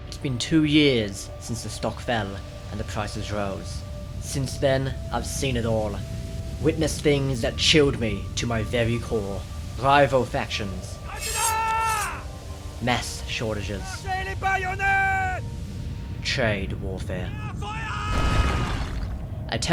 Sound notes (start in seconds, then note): 11.1 japanese noises; 14.0 french noises; 17.5 German noises